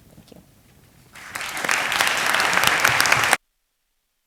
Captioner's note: applause